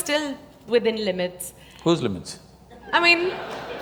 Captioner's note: laughter